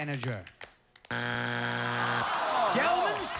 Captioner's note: buzzer